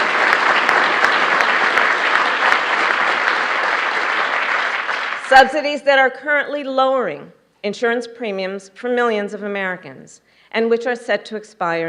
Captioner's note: applause